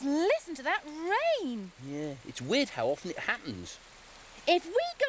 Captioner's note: rain pattering